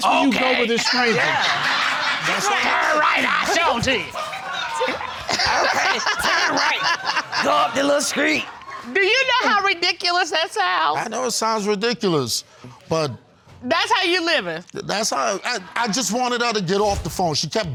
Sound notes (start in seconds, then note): 0.2 deep voice; 5.6 laughs